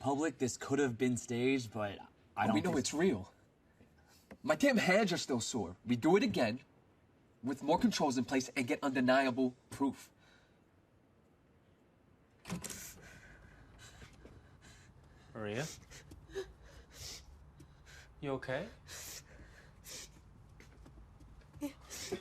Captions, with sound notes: this could have been staged, but I don't- - But we know it's real. - My damn hands are still sore. We do it again with more controls in place and get undeniable proof. (Maria breathing heavily) - Maria? (Maria gasps) You okay? (Maria sniffling)